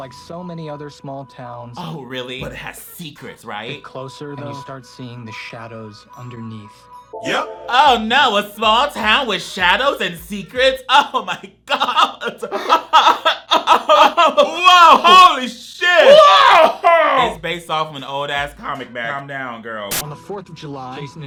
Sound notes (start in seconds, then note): 11.6 coughs